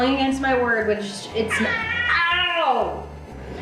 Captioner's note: cat meowing